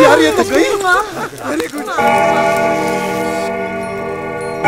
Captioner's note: Clock tolling